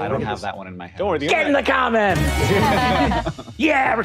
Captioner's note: players laughing